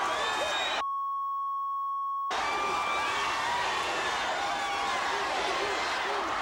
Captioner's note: beep; crowd cheering; beep; crowd cheering